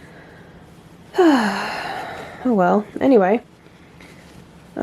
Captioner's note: sigh